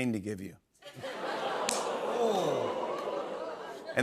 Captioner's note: laughter, "Oohs"